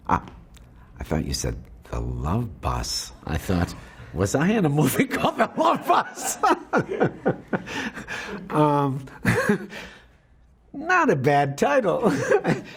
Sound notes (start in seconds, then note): 7.6 laughs